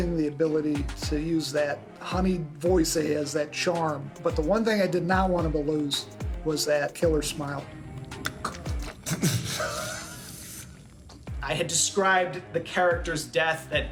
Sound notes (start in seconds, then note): 8.1 chokes, laughs